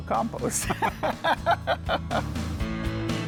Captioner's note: both laughing; lively music